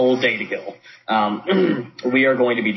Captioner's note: clears throat